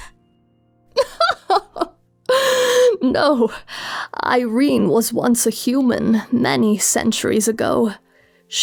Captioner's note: laughing